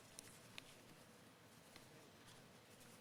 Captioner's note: none